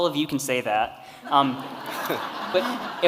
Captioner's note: audience laughing